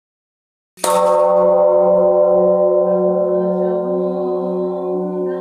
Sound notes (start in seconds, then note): 0.7 bell chimes; 3.2 nun chanting in Chinese